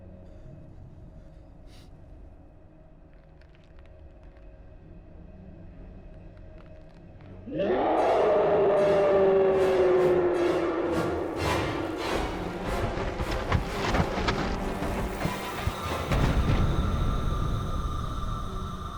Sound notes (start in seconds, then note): 7.5 roaring